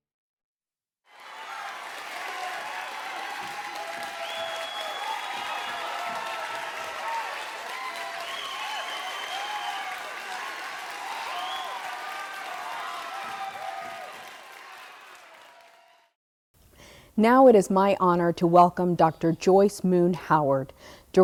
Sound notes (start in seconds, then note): 1.3 audience applauding